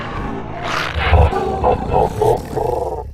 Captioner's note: laughs